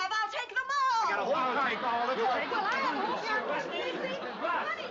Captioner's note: overlapping chatter